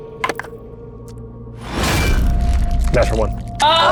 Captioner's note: die rattling